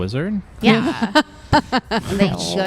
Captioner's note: laughs